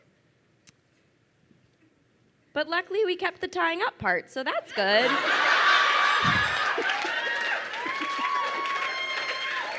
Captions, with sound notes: But luckily we kept the tying up part, so that's good. (crowd laughing and cheering)